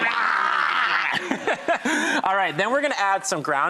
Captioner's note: laughing